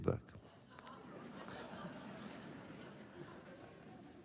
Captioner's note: laughter